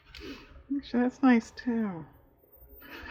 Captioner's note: laughs